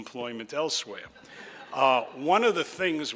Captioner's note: audience laughs